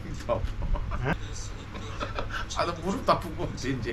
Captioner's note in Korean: 그저 웃음만 남